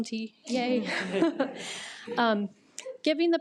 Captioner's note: attendees laugh